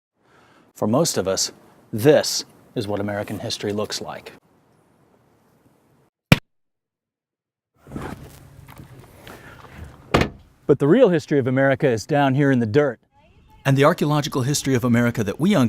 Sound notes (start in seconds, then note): 6.3 book closing